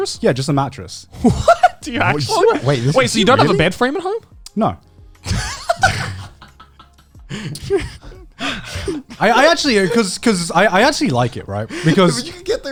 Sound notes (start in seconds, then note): 1.2 laughs; 5.2 laughs